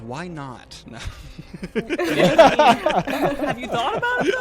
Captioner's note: all laughing